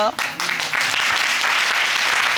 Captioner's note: audience applauding